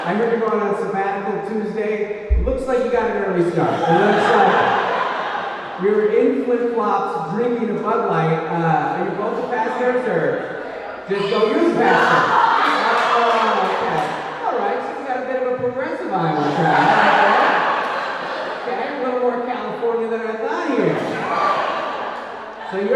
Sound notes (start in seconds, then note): 11.0 audience yelling; 16.1 audience laughing